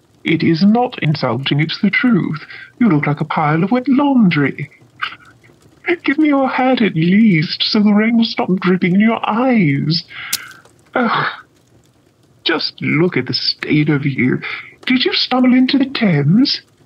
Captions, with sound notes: It is not insulting. It's the truth. You look like a pile of wet laundry! [Holmes laughs] Give me your hat, at least, so the rain will stop dripping in your eyes! [Water splash on floor] Ugh! Just look at the state of you. Did you stumble into the Thames?